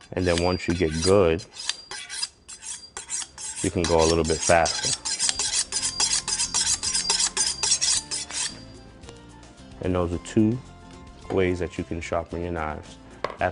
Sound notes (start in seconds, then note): 1.4 sound of blade scraping against the steel; 5.0 sound of blade scraping against the steel